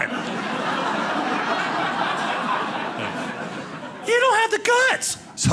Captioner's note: audience laughing